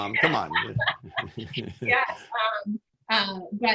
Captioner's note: laughs